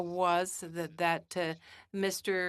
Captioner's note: speaking French